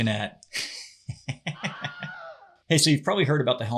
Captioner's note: laughs